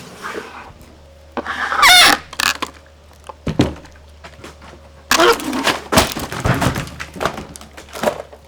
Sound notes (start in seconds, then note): 1.4 wood creaks; 5.1 wood shattering